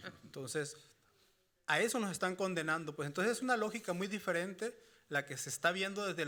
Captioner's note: moderator laughing; speaking Spanish continues